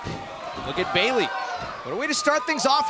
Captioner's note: crowd cheering